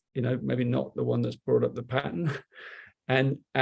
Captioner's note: chuckles